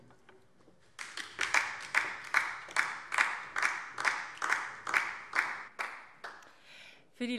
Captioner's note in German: Beifall DIE LINKE